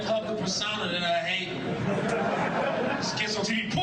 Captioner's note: audience laughing